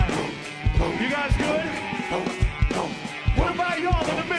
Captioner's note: cheering